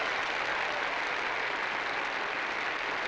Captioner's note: applause